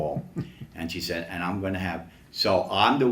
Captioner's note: chuckles